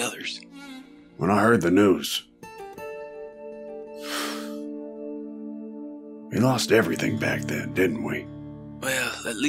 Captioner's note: sighs